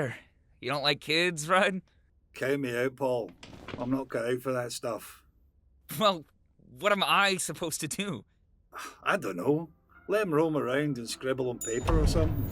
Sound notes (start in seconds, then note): 8.4 Rudd sighs; 9.7 ominous music